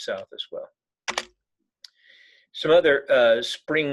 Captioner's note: keyboard clicking